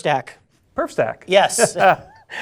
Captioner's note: laughs